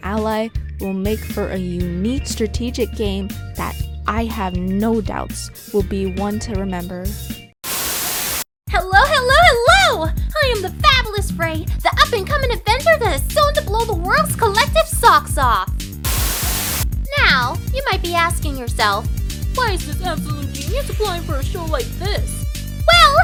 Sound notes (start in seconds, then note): 7.6 Static; 16.0 Static